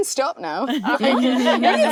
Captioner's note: all laughing